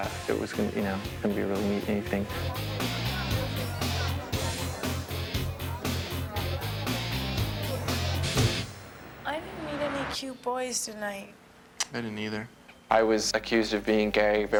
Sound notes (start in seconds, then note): 2.6 crowd murmurs; 2.6 heavy rock music; 8.9 traffic hums; 11.8 smacks lips